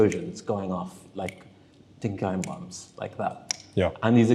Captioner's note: fingers snapping